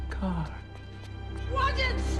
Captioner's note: fast footsteps approaching